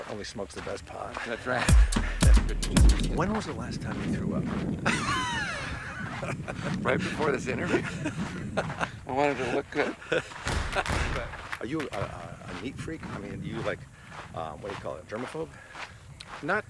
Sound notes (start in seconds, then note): 4.8 laughs